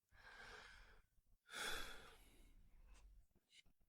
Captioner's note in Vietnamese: thở dài